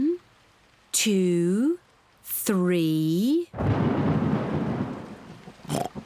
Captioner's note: oinks; thunder rumbles